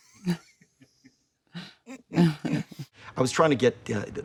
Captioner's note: Leonardo and Jennifer laughing